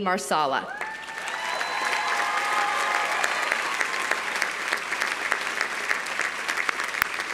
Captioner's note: audience cheering; audience applauding